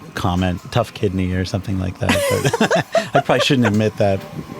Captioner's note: both speakers lauging